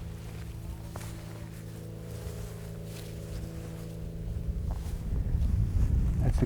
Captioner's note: walking noises